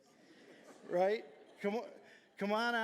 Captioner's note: audience laughing